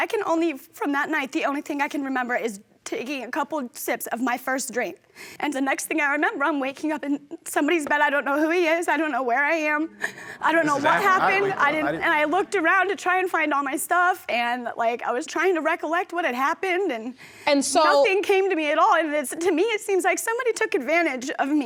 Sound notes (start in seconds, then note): 10.5 audience murmuring